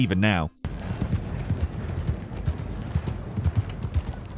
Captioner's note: hooves clopping